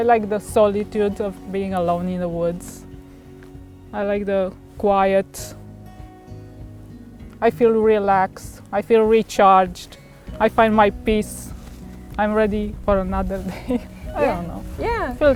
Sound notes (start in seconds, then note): 13.3 chuckles